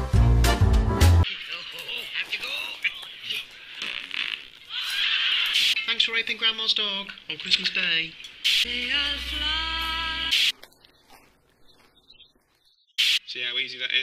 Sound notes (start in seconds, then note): 1.2 TV sounds